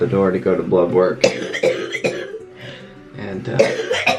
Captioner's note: coughing